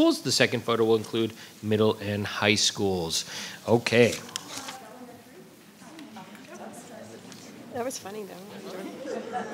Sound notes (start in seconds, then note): 5.0 voices clamoring